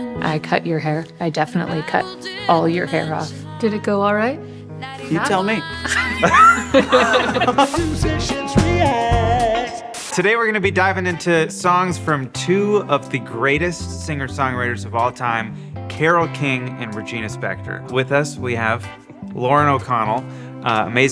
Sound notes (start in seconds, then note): 5.8 everyone laughs; 7.8 television static hisses